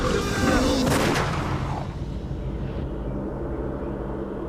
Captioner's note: gunshot